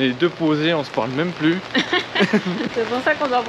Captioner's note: laughter